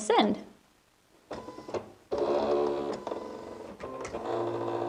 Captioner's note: machine buzzing